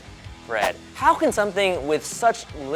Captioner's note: graphic whooshing